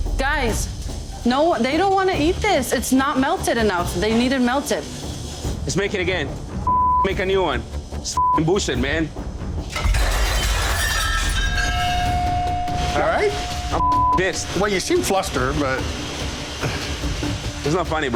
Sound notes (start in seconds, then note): 0.0 suspenseful music; 6.7 beep; 9.6 plates shattering; 11.4 dramatic suspenseful music; 13.4 beep; 17.3 laughs